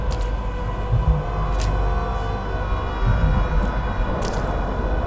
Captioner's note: moist footsteps